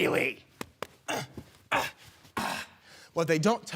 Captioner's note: grunting